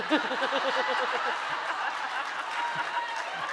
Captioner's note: laughing